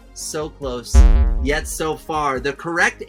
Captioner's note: machine buzzing